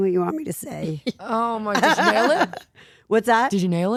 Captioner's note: Stephanie laughing